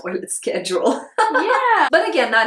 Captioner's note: laughs